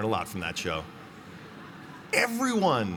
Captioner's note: laughter